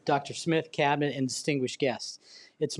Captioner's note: none